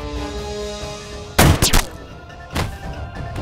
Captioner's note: Gunshot